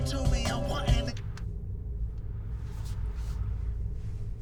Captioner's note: radio clicks